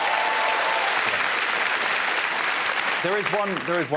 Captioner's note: cheers and applause